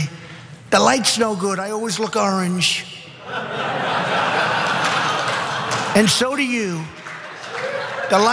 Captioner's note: laugh